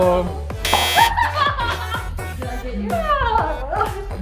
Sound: buzzer buzzes

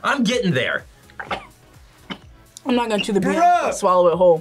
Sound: coughs

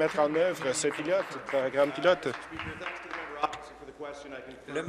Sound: applause

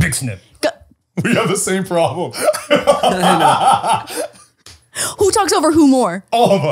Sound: laughing

